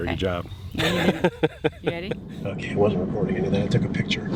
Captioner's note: chuckles